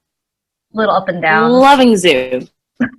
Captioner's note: sarcasm